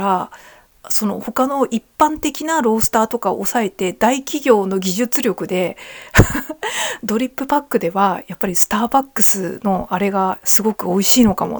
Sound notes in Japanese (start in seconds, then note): 6.1 笑い